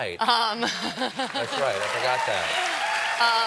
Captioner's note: applause; cheers